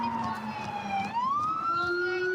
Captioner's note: sirens